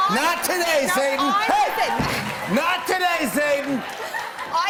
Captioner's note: stomps floor